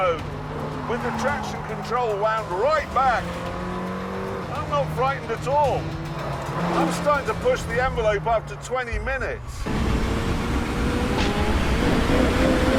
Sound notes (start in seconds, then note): 9.5 engine revving